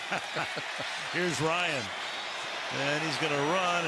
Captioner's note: laughs